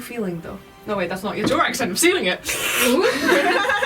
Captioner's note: sucking noise